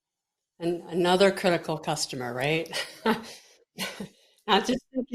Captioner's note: chuckling